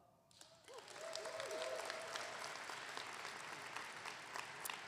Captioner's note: audience clapping